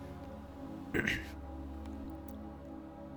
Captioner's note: sick noises again